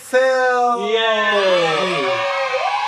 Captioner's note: crowd cheering